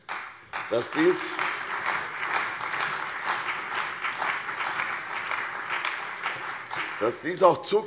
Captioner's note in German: Beifall bei der CDU und dem BÜNDNIS 90/DIE GRÜNEN